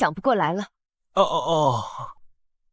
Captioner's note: shocked sounds